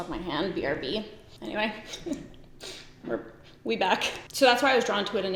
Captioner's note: giggles